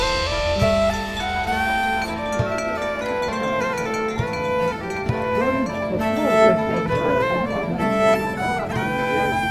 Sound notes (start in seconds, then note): 2.5 people talking in the background